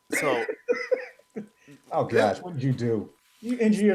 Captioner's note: laughing